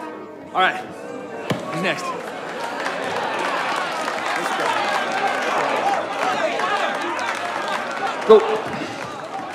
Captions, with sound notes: All right, who's next? [crowd cheering and applauding] Let's go.